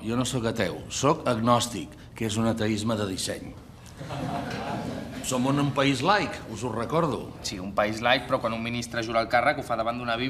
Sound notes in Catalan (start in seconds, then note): 4.0 riures dèbils